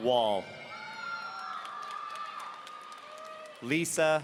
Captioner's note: audience cheering